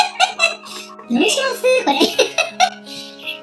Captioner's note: laughs